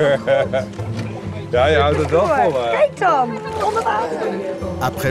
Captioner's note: foreign language spoken audio